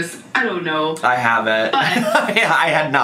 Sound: laughs

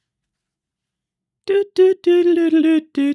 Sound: humming

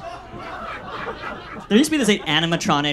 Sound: audience laughs

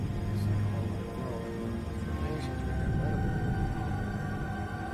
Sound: indistinct chatter

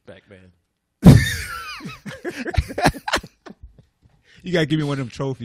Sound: laughter

